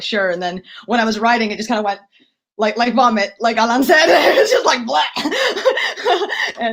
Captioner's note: laughs